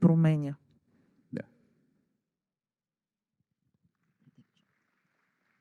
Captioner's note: applause